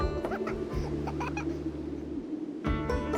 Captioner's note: chuckling; gentle music